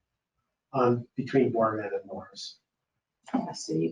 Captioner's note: speaking faintly